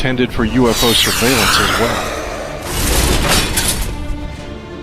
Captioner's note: rocket fires